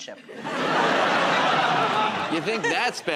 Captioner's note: laughter